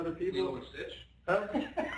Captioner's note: laughter